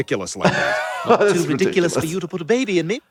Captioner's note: laughs